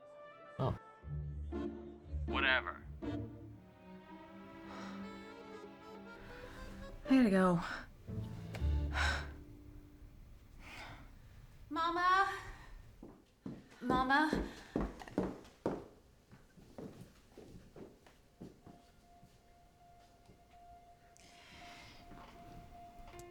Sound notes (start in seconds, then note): 4.6 sighs; 8.2 sighs; 12.2 footsteps; 18.4 somber music